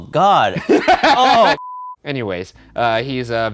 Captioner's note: laughing